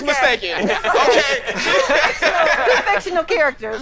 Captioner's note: all laughing